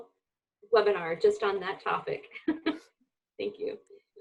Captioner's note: laughs